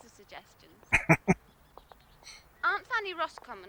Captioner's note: chuckling